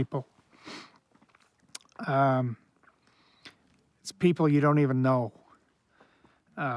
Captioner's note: sniffs